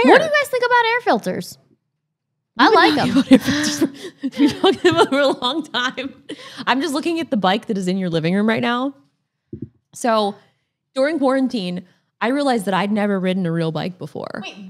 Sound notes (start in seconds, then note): 2.8 both laughing; 5.6 laughs